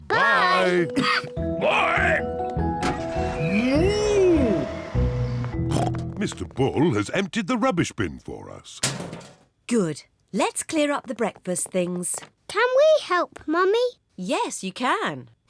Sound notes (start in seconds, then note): 5.6 snorts